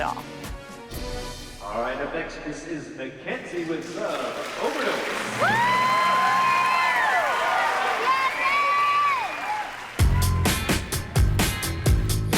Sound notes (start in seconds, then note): 5.1 applause